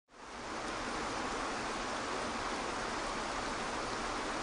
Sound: water flows

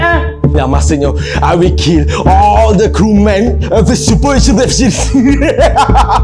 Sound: evil laugh

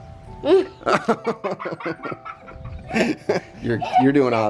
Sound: laughing

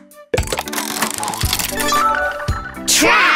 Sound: turning sound

